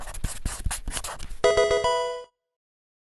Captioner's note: marker scratching; electronic video game chime